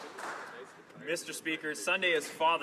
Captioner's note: some Applause